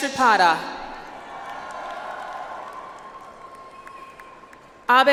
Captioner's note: audience applauds